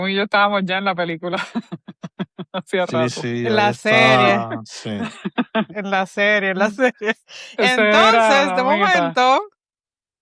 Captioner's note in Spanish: risas